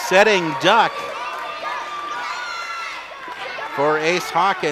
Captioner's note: audience yells